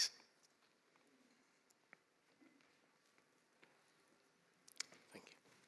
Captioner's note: silence